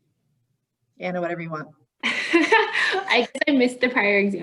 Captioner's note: laughing